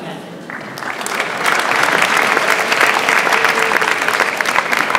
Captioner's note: audience applauds